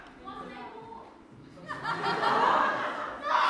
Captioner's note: audience laughter